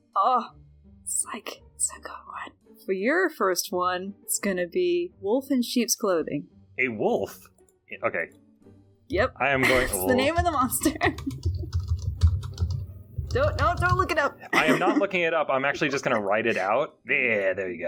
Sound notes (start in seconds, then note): 10.3 typing